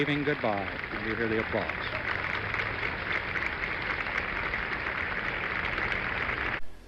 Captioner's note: applause